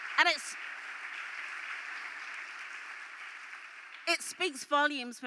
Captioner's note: applause